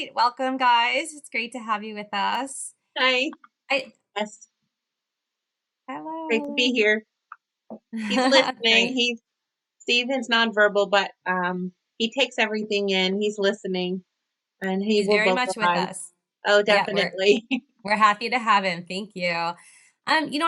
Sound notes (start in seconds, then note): 7.8 chuckles